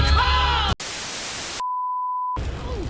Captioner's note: static